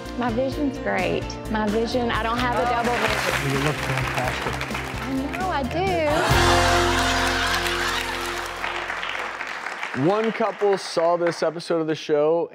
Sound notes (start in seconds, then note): 6.1 audience claps